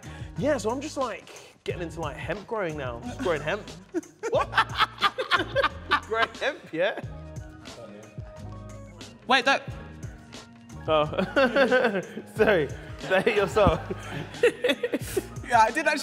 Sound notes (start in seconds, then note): 5.6 laughs; 7.7 someone speaks off camera quietly; 14.5 laughter